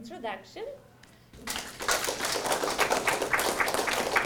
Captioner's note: applause